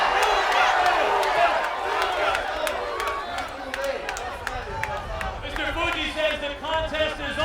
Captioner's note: applause